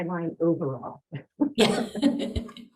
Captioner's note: chuckles